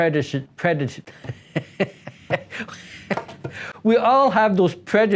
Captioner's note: laughs